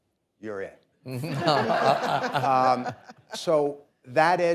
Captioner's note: audience laughing